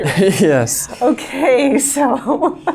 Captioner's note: laughing